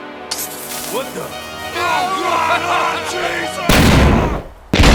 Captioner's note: laughs maniacally